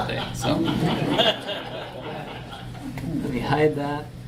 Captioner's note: audience laughs